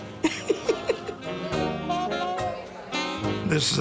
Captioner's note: laughing